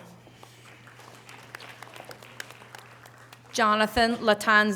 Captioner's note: audience applause